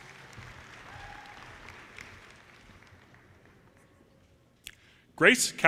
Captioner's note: audience cheers and applause